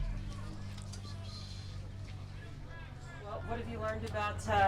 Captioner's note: background crowd chattering